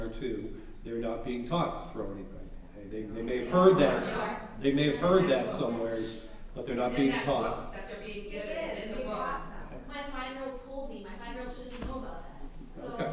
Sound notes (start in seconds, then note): 3.0 audience chattering